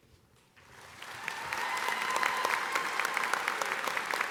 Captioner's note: audience applauding